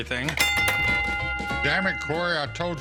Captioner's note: bell rings